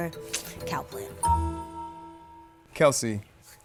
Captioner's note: pleasant dings